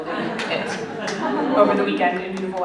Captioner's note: laughter